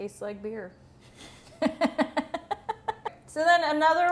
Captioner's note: laughs